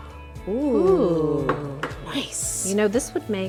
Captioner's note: both wooing